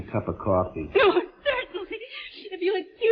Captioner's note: whimpering